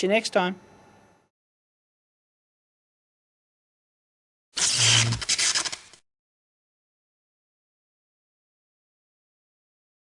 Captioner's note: sparking sound